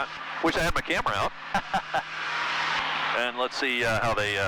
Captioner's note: laughing